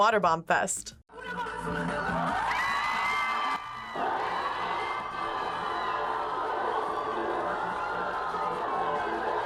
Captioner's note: crowd cheers